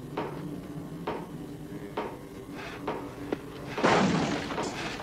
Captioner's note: slow hammering